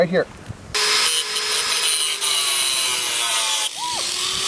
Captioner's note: grinding